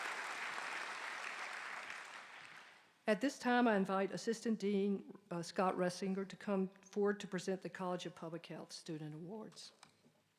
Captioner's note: applause